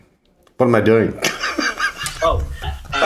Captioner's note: laughs